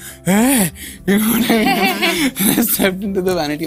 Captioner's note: laughter